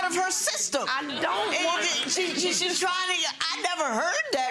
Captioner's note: audience laughs